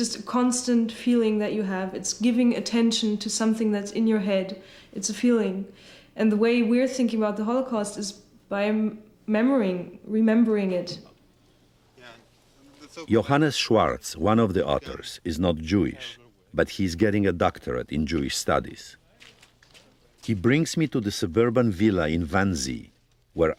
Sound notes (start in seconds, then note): 12.8 voice-over